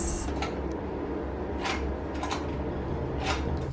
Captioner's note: metal clanking